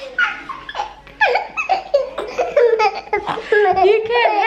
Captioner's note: laughing